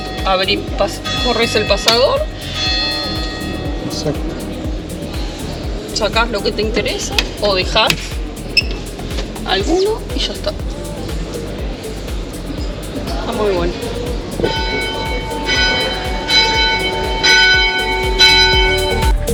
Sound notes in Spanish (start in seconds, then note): 14.8 campanadas